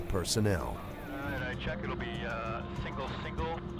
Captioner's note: voiceover